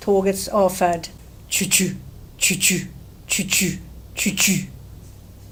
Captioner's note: mimics rail sound